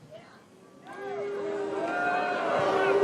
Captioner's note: crowd